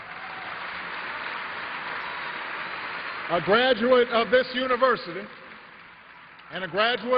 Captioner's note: applause